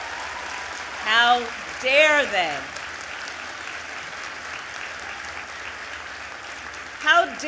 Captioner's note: applause